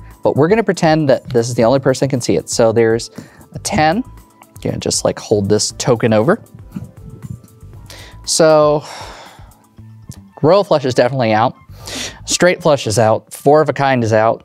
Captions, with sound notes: But, we're gonna pretend that this is the only person that can see it. So, there's a 10. And, just, like, hold this token over. So, (sighs) royal flush is definitely out. Straight flush is out. Four of a kind is out.